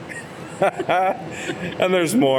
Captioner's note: laughs